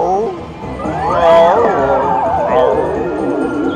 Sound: mimics howling dog

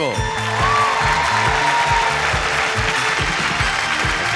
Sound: audience cheering

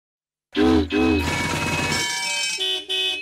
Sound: honking

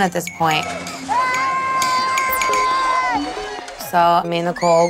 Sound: Nicole yelling

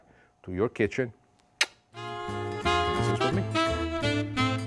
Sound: smooches

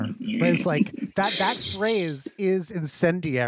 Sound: laughs

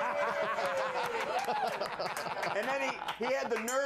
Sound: laughter

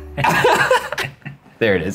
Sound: laughing

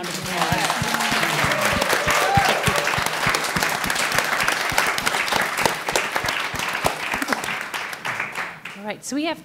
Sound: applause and cheering

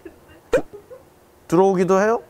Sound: hahahahahahahahahaha

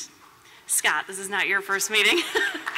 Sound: laughter

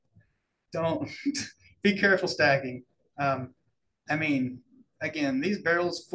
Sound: chuckles

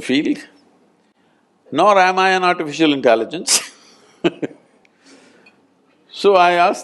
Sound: laughs

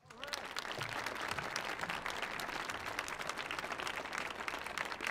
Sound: audience applauding

